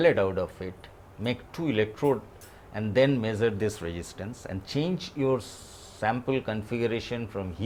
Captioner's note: breathe